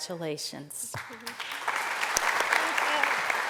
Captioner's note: applause